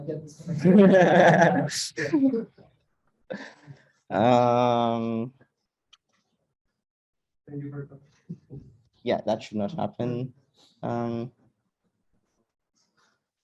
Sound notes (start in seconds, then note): 0.5 group laughing; 8.0 faintly speaking